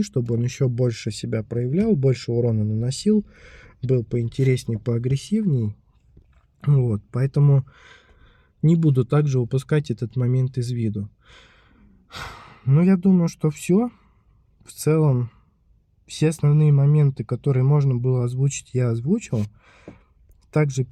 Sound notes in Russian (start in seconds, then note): 12.0 тяжело вздыхает; 12.1 вздыхает